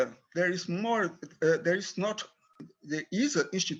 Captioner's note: speaks in foreign language